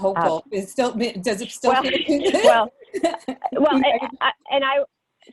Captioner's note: laughs